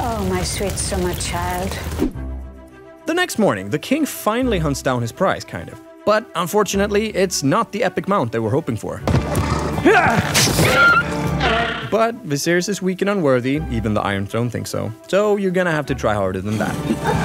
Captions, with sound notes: Sweet summer child. The next morning, the king finally hunts down his price, kind of, but, unfortunately, it’s not the epic mount they were hoping for. (Stab) But Viserys is weak and unworthy, even the Iron Throne thinks so, so you’re gonna have to try harder than that!